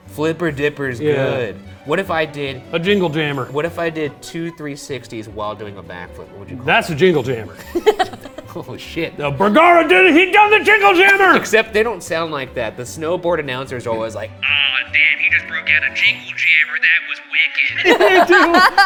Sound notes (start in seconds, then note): 7.6 laughing; 17.7 laughing happily